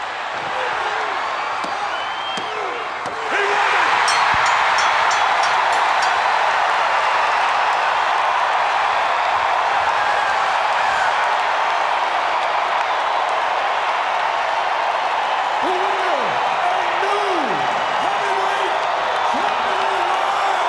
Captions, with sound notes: He won it. (bell ringing) (crowd cheering) The winner, and new Heavyweight Champion of The World,